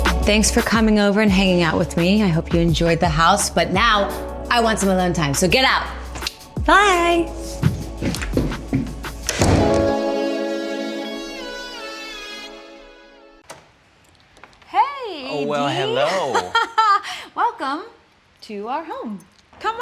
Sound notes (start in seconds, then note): 15.3 laughs